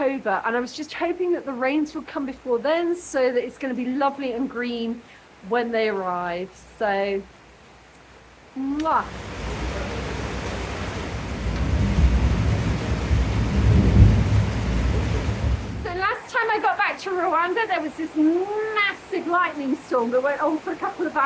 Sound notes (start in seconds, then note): 8.8 heavy rain; 9.0 thunder